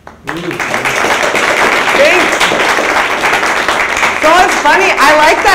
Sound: audience applauds

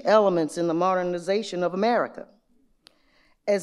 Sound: none

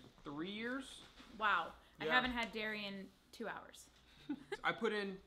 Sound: chuckling

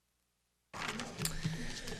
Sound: papers rustling or pages turning

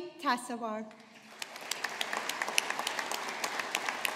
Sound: audience applauding

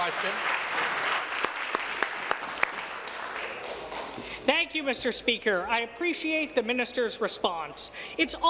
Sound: applause

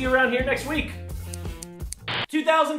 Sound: snip snip snip

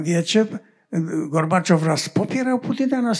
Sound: foreign language

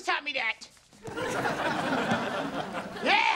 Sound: laughing

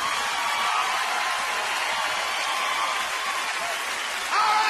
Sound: audience cheering

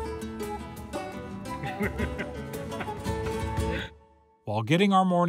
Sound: laughs

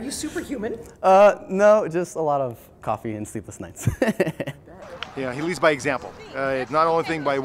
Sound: laughs

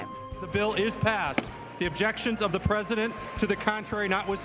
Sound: sounds gavel

